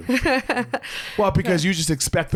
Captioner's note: laughs